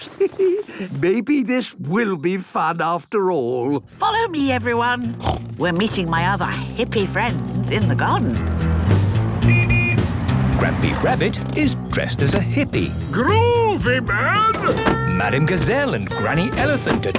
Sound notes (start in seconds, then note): 5.1 snorts; 9.4 honking